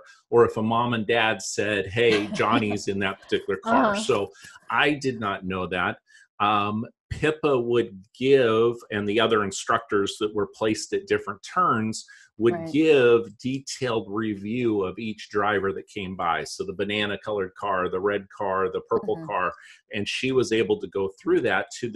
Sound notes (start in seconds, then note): 4.2 chuckles